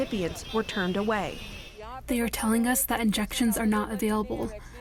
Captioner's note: through translator